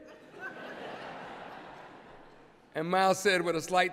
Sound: laughter

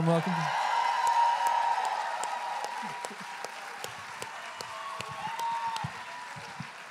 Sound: applause and cheering

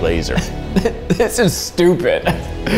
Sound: laughs

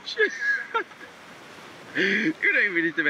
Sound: laughing

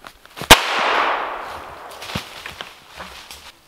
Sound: pistol firing

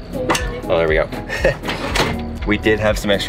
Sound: chuckles

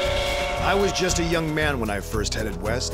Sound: indians whooping

